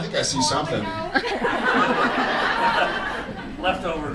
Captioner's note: audience laughs